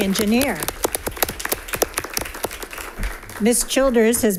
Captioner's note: all applauding